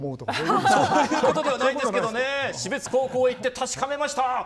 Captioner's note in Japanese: 笑い